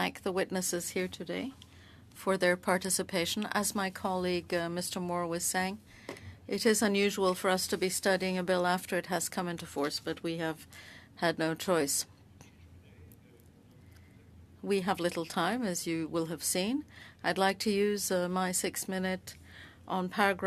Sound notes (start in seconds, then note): 2.3 speaking French